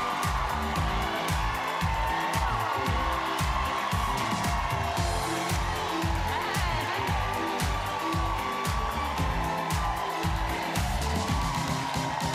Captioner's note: cheering and applause